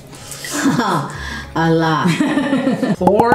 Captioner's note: laugh